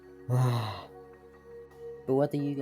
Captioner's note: sigh